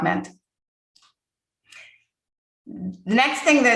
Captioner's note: mouse clicking